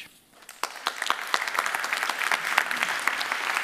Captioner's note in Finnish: Applause